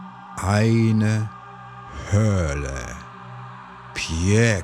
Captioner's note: german